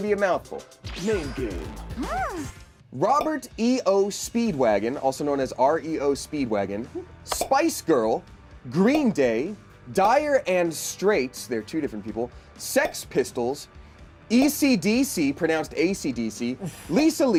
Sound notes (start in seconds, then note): none